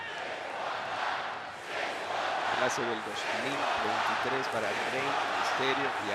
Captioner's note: applause